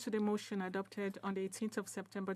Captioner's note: speaking French